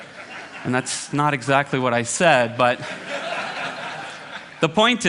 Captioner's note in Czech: smích